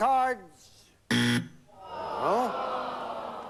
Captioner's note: buzzer